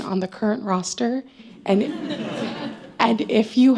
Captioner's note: laughter